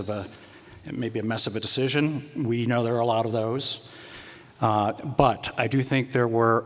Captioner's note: none